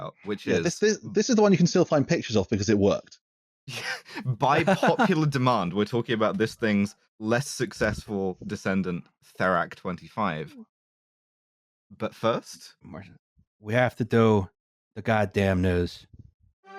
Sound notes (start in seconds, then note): 3.7 laughs